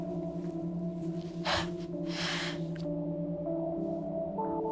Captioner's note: sniffling